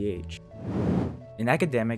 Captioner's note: transition sound effect